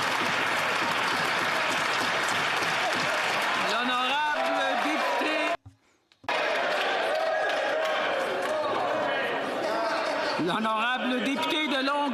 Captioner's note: some Applause